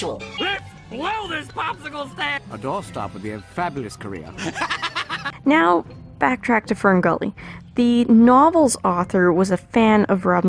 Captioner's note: laughing